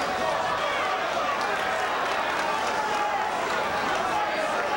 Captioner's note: audience shouting